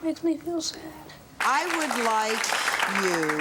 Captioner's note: audience applause